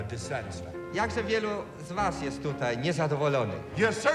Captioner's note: translates in Polish